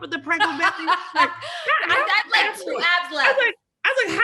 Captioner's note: laughs